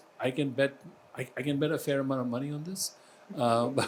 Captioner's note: laughs